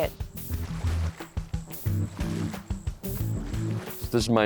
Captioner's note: water splashing